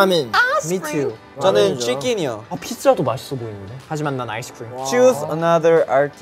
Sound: speaking in Korean

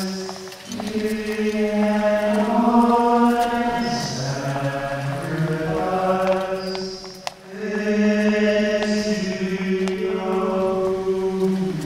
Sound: footsteps

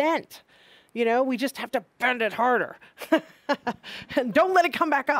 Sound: laughing

